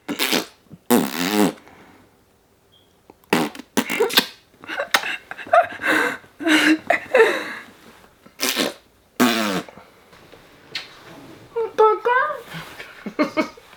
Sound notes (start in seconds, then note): 0.2 raspberry blowing; 8.3 raspberry blowing